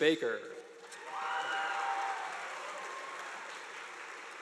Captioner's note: audience applauding